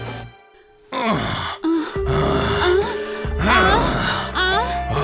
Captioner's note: VH and woman moaning